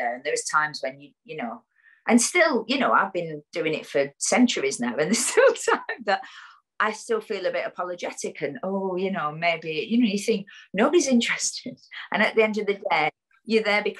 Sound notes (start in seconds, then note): 4.5 laughs